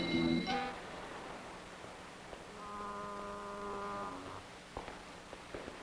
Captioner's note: boat horn blowing faintly